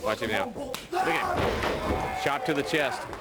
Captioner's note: crowd chatter